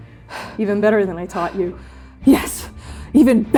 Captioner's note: breathing heavily